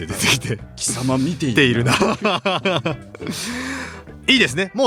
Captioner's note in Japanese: 笑い